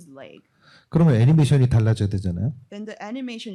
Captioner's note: speaking korean